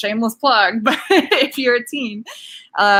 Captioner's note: laughs